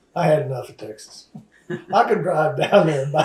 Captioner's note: laughs